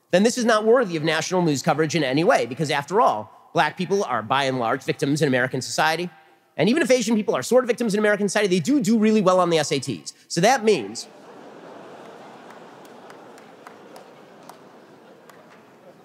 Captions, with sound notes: then this is not worthy of national news coverage in any way because after all, black people are, by and large, victims in American society, and even if Asian people are sort of victims in American society, they do do really well on the SATs. So that means... [audience laughter]